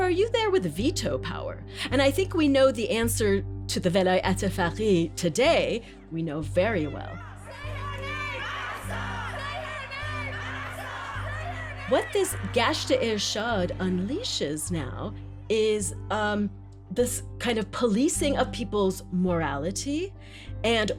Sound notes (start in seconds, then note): 4.1 non-English language spoken; 7.2 soundbite of montage; 8.0 chanting; 9.8 chanting